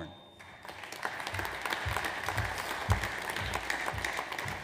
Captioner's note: audience applauds